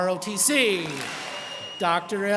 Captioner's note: students clap